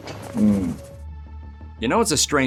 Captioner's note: scratching